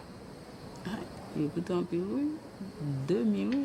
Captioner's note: woman speaking Haitian Creole